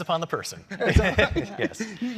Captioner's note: laugh